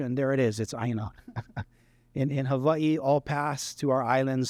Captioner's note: laughter